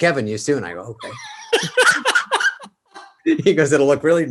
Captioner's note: David and Kevin laugh